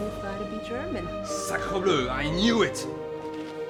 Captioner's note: speaks in foreign language